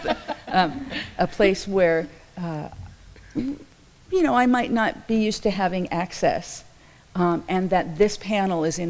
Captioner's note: laughs